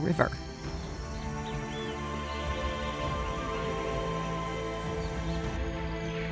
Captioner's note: wildlife chattering